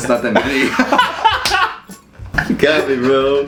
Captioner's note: laughing